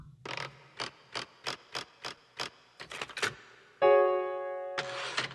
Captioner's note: typewriter rattling; somber piano music